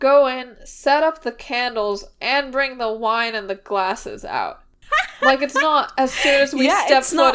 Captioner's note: laughing